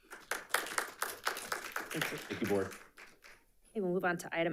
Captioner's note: audience applauding